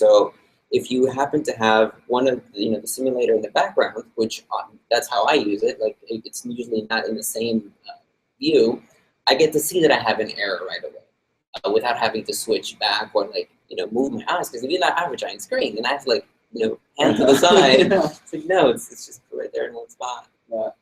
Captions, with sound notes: So if you happen to have one of the simulator in the background, which that's how I use it, it's usually not in the same view, I get to see that I have an error right away without having to switch back, or move past, because you have an average-line screen, you have to, you know, move to the side. (laughs) It's like no, it's just there in one spot.